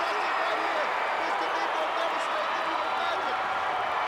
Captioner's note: crowd cheering